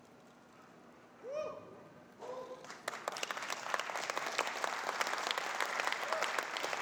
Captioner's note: applause